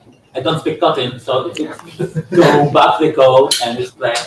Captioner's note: chuckles